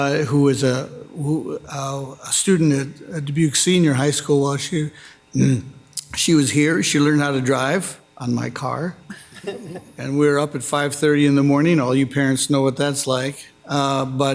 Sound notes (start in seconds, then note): 9.1 Council Members laughing